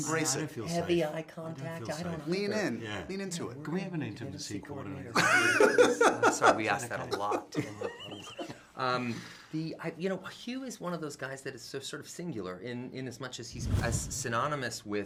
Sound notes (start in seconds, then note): 5.1 laughter